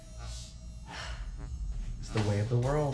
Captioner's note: heavy sigh